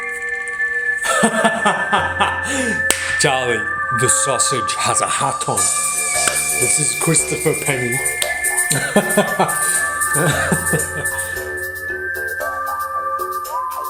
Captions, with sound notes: (laughs) Charlie, the sausage has a hat on. This is Christopher & Penny. (laughs) (cowboy music)